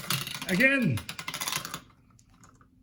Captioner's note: marble rattles on tubes